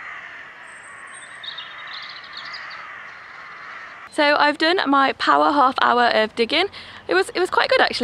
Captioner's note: crow sounds